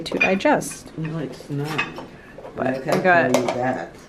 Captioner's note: mumbles